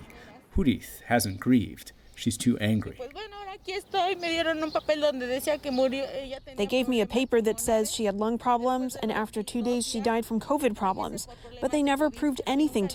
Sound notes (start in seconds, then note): 5.0 through translator